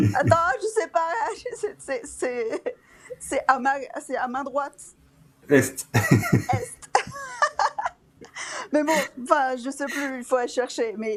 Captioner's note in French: rires